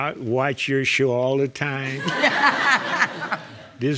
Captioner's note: all laughing